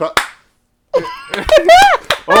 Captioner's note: laughter